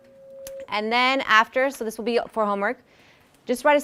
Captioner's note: bell rings